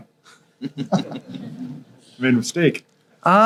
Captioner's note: volunteers chuckle